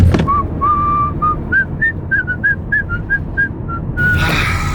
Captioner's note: whistles a tune